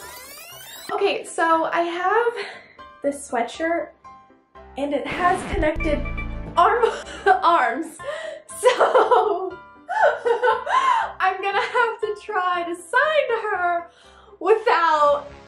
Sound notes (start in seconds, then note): 5.0 record scratch; 7.7 laugh; 9.9 giggling; 12.9 motivational music